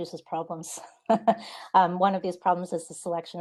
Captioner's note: laughing